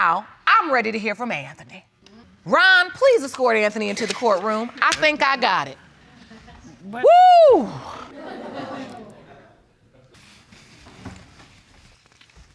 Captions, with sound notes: I'm ready to hear from Anthony. Ron, please escort Anthony into the courtroom. I think I got it. Whoo! (AUDIENCE CHUCKLING)